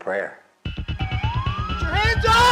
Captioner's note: suspenseful music continues; sirens blaring